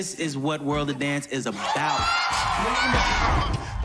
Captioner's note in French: cheering